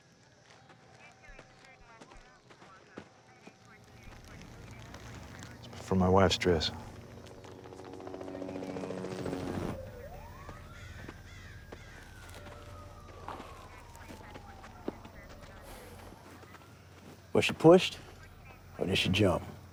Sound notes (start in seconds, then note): 7.4 helicopter blades whir; 10.1 distant sirens wailing; 15.6 sighs